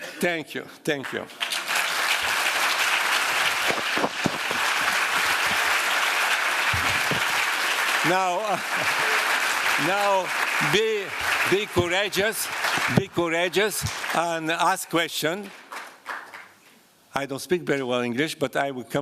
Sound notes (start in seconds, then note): 2.1 applause